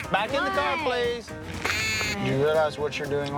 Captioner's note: blows duck call